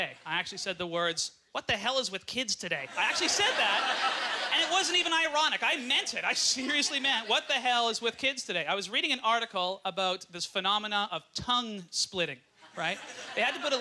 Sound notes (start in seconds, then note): 4.9 audience laughter